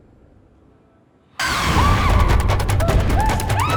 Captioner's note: screams